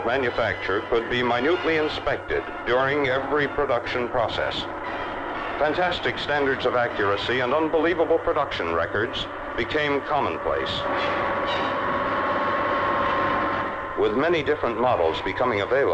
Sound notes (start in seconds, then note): 10.8 dramatic orchestral music; 10.8 machinery whirring